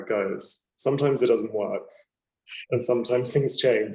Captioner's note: chuckling